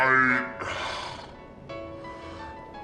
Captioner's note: sighs